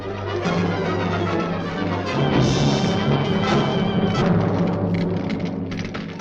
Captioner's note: dramatic orchestral music; fire crackling